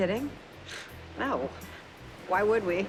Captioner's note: snorts